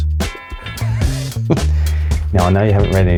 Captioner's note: laughing